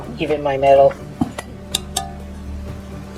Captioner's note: tap, tap